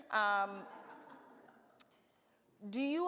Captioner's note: audience laughs